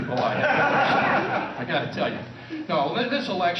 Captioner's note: laughter